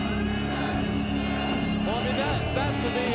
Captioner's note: crowd chanting